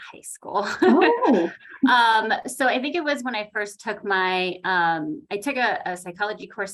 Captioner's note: laughs